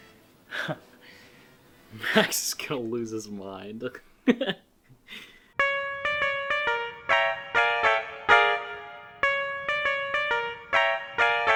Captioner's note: laughter